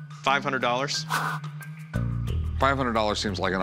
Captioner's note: swish